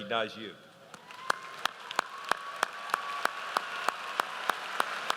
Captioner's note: audience applauds